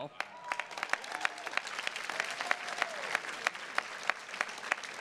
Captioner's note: attendees clapping